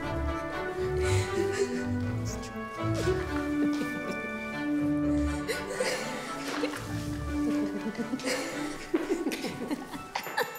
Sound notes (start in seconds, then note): 1.1 friends laughing